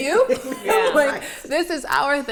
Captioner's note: all laugh